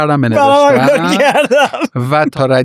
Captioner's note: laughs